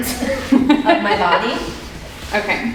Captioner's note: both chuckling